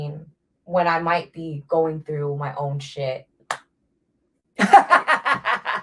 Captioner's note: slaps face; laughs